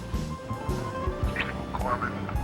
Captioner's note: kissing